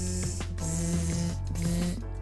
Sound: bzzzzzzzzzzzzz; bzzzzzz

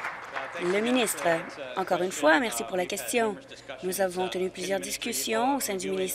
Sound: applause

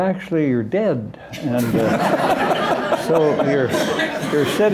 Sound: laughter

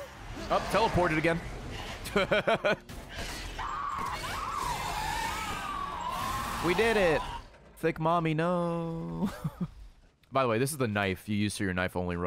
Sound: laughs

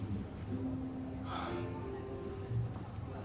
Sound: sighs

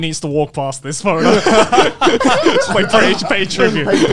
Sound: everyone laughs

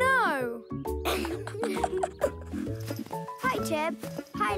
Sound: giggles

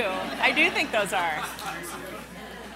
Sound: laughing

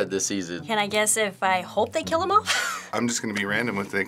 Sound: laughs

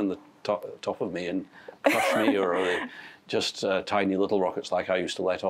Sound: laughs

